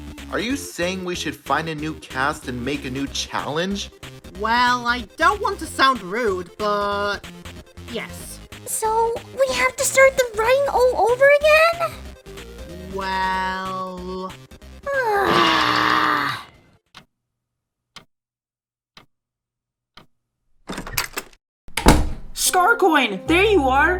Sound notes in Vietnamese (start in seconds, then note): 20.6 Cửa mở; 21.7 Cửa đóng